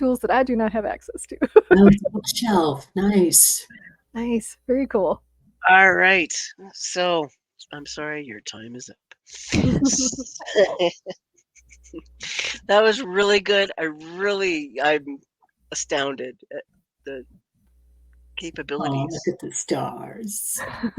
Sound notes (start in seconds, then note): 1.4 laughs; 9.3 participants laughing; 20.6 participants laughing